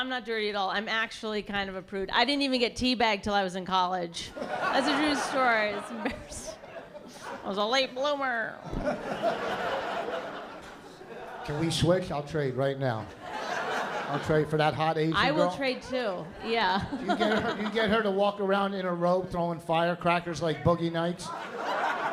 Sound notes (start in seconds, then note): 8.6 laughter; 15.2 laughs; 21.2 laughter